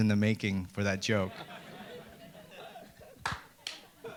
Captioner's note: audience laughter